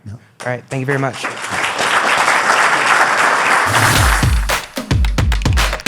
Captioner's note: audience applause